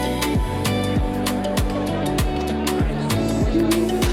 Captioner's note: indistinct chatter